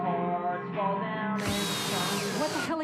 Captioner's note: drill whirs